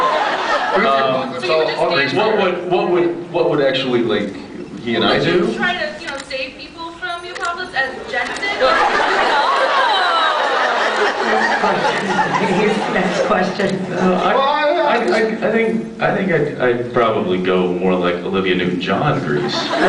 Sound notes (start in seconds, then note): 0.0 laughs; 8.5 laughs, riots; 8.8 laughs; 11.6 laughing; 13.5 laughs; 19.4 laughs